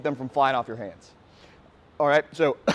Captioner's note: coughing